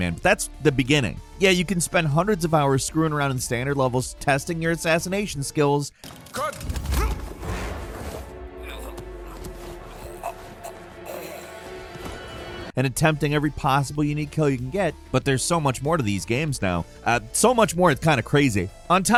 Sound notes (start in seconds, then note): 6.6 dramatic music; 6.7 character choking